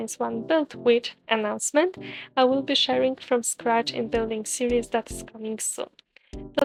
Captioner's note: announcement